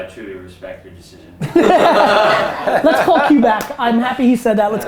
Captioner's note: group laughter